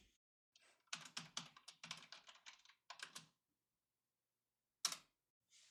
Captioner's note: typing sounds